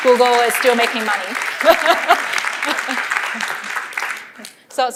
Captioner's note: applause